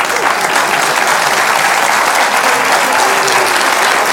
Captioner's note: audience applauds